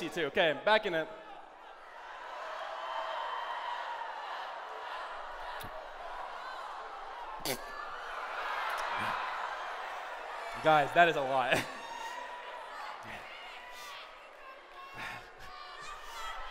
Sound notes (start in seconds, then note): 3.6 chanting; 7.3 choking; 12.1 shouting